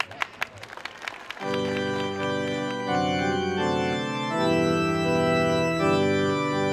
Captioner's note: applause